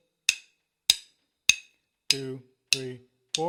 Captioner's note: sticks banging